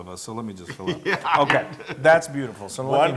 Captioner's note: laugh